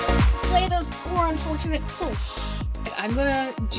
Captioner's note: gasp